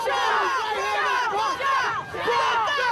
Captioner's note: shouting